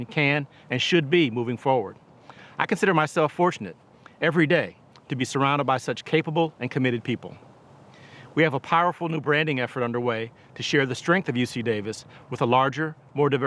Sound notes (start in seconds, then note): none